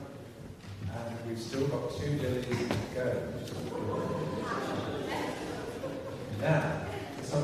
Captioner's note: laughter